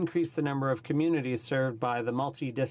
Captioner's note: speaking in french